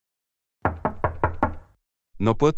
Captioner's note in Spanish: FX - Door Knock